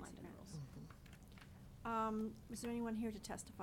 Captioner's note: people chattering